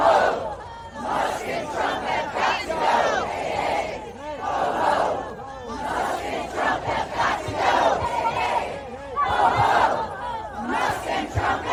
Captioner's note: chanting